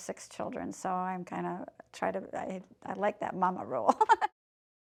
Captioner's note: laughing